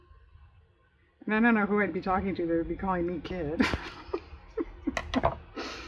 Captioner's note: laughs